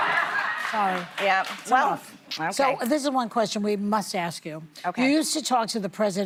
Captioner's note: laughter